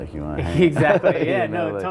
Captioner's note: both laughing